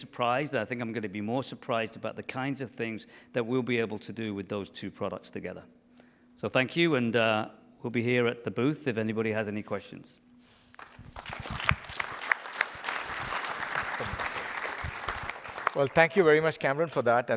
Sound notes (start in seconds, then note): 10.7 applause